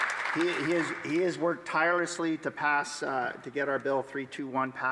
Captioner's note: some Applause